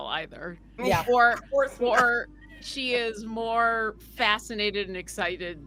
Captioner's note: laughing